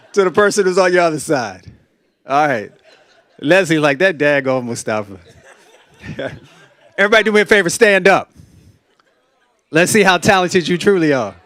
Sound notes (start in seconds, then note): 5.1 laughter; 5.2 laughs